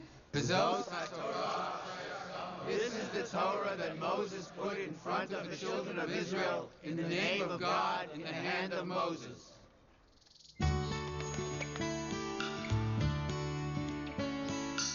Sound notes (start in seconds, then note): 0.9 speaking Hebrew